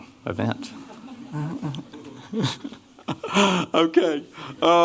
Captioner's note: laughter